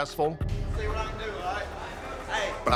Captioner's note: inmates chattering